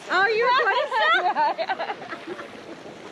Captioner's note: laughing